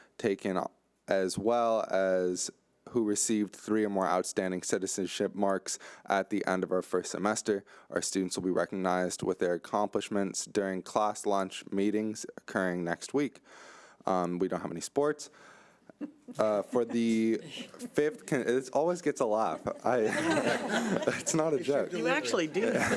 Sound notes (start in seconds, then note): 16.3 audience snickering; 20.1 audience laughing